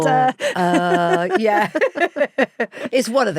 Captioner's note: both laughing